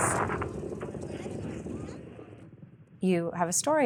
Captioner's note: explosion booming